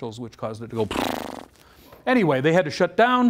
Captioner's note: explosion sounds